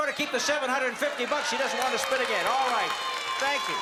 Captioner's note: cheering and applause